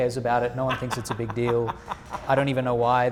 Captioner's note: laughing